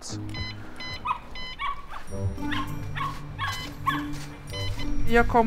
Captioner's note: beep from intercom